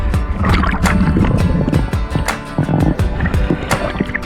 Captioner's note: water rippling